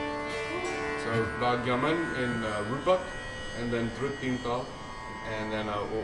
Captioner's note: non-english